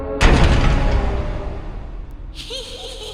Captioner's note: thudding; sinister music